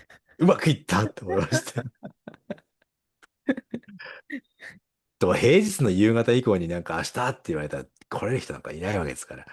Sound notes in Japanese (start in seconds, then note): 1.2 笑い